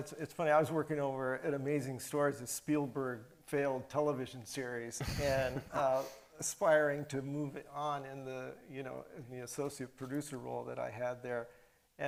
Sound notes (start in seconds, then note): 5.0 chuckles